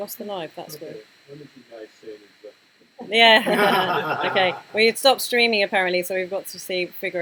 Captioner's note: laughter